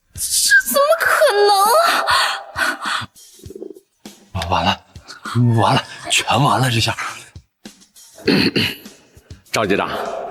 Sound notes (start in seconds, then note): 8.2 cough, cough